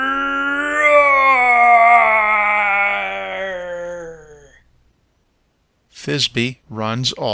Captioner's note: roaring